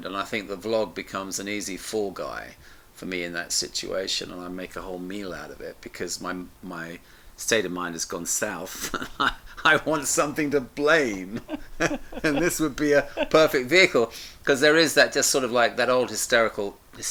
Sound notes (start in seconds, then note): 8.7 chuckles